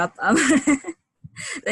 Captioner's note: laughter